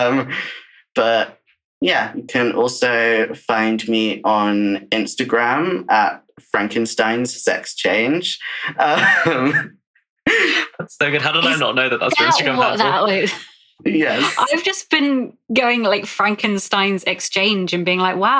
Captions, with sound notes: anything that could... could... The any genre ever. It's probably in there somewhere. (Laughs) But yeah, you can also find me on Instagram @frankensteinsexchange. That's so good, how did I not know that's your Instagram